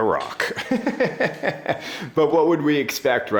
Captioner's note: laughing